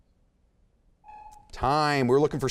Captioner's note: timer sounds